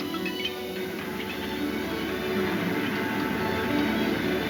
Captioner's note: gears turning